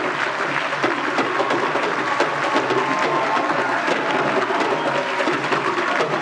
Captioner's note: applause